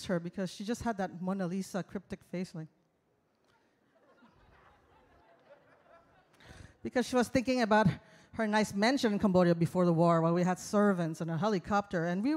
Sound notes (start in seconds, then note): 3.8 audience laughs